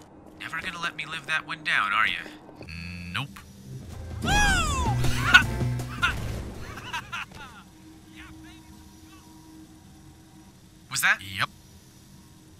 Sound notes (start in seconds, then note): 4.2 enthused whooping and hollering